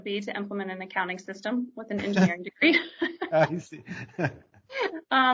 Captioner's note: laughs